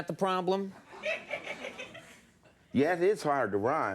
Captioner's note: audience laughing